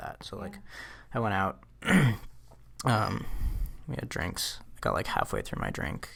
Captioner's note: clears throat